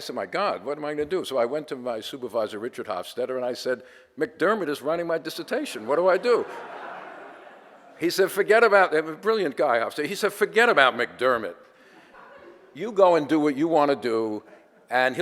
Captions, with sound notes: So I said, my god, what am I gonna do? I went to my supervisor, Richard Hofstadter, and I said, "McDermott is writing my dissertation. "What do I do?" (audience laughter) Brilliant guy, Hofstadter. He said, "Forget about McDermott. "You go and do what you wanna do,